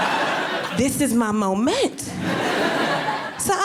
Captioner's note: audience laughing